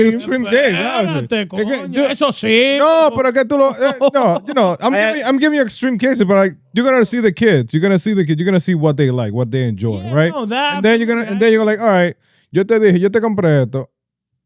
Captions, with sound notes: Extreme day. (Speaking In Foreign Language) No, but I get to know, no, you know, I'm giving you extreme cases, but like, you're gonna see the kids, you're gonna see the kids, you're gonna see what they like, what they enjoy, right? Yeah, no, that absolutely-- And then you're gonna, and then you're like, all right, (Speaking In Foreign Language)